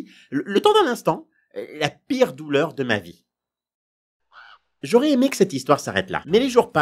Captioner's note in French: Cri de corbeau